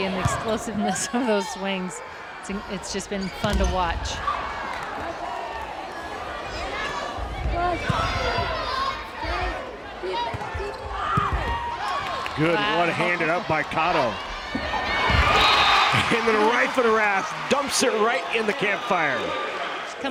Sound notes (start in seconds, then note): 6.6 players yelling; 14.3 crowd and players cheering